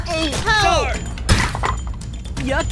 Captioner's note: Eggy and Pen slip over, groaning; smack